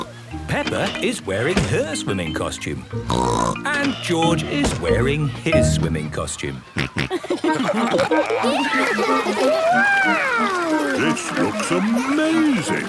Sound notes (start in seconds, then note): 0.0 snorts; 3.0 snorts; 6.6 snorting, giggling